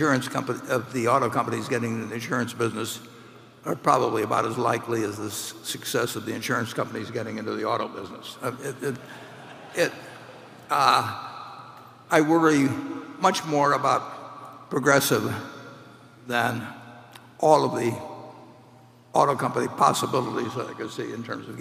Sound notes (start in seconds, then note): 8.9 laughter